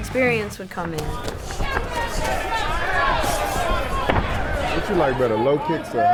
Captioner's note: audience chattering; punch thudding